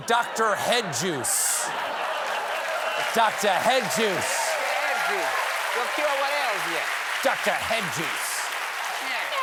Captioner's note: laughter